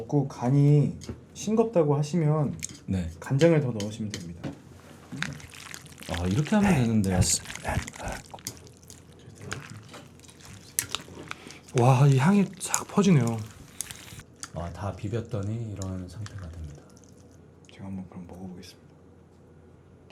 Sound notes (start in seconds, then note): 5.6 mixing sound ASMR; 9.2 mouthwatering sound